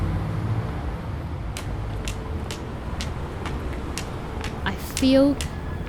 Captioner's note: tapping of cane on the ground